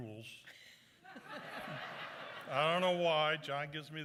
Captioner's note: laughter